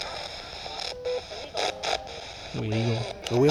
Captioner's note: spirit box voice